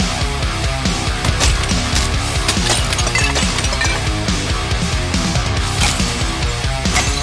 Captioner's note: pulsing rock music; items crashing